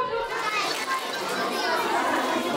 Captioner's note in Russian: дети хлопают, шумят